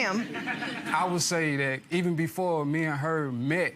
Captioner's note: audience laughter